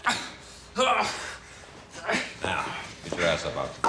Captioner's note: Danny grunting